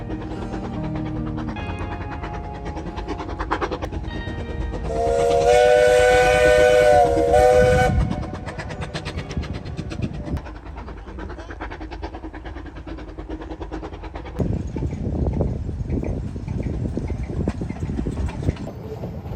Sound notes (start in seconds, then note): 4.9 whistle sounds; 8.5 train chugging